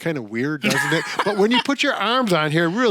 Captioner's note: laughs